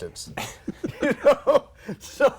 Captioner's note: laughter